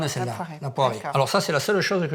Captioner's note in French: none